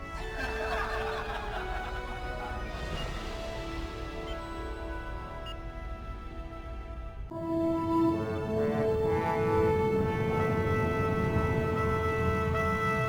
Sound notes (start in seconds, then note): 3.1 dramatic music; 3.1 laughing